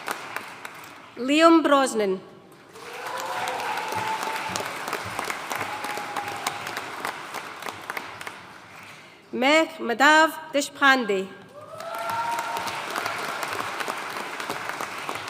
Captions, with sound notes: Liam Brosnan. (AUDIENCE CHEERING AND APPLAUDING) Megh Madhav Deshpande. (AUDIENCE CHEERING AND APPLAUDING)